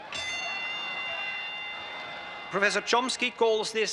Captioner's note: audience cheering; bell dings